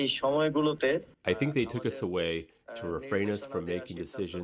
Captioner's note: through translator